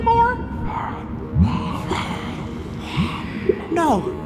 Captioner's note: mocking voice